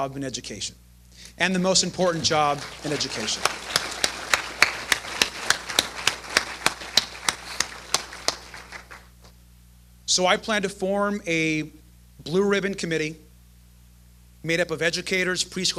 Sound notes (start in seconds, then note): 4.4 applause